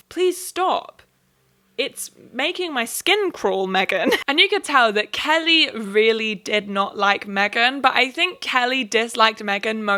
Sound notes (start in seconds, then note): 4.0 laughs